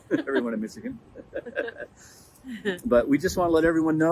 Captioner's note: laughing